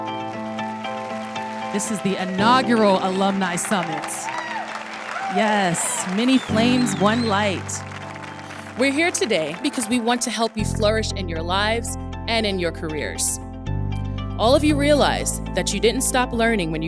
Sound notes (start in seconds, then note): 0.3 applause; 4.4 applause